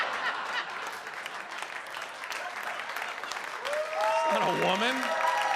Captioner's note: audience laughs; audience applauds